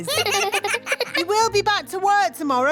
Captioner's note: children laugh